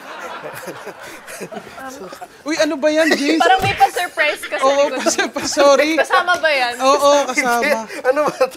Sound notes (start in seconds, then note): 0.0 chuckling; 0.0 laughs